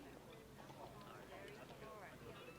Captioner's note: indistinct chatter